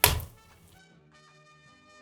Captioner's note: clicking